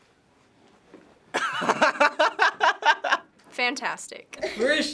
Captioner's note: laughs